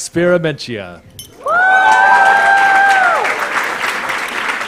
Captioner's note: cheering, applause